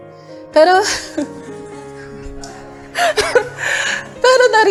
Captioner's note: laughter